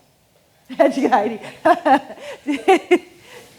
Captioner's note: laughing